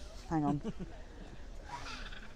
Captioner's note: chuckles